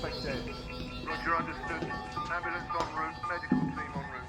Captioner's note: man over radio